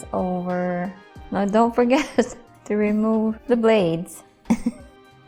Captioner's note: chuckles